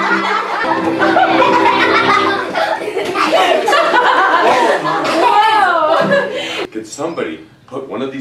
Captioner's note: laughter